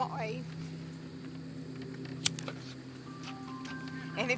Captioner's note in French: bruit du briquet